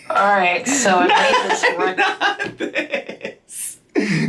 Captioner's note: laughs